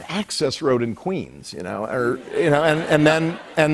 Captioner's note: light laughter